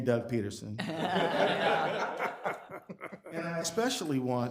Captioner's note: people laughing